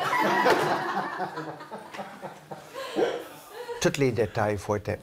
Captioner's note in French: rires